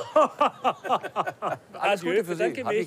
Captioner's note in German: Lachen